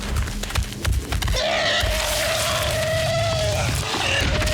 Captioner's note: elephant screaming